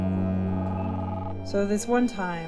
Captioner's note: phone rings